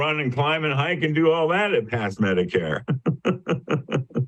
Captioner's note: laughs